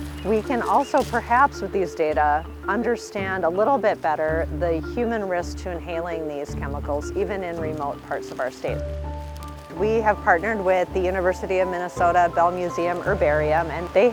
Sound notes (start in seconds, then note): 0.0 sound of placing needles in bag; 8.7 sound of placing branch in bag